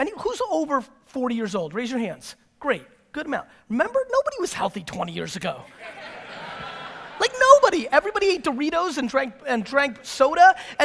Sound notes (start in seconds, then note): 5.7 audience laughter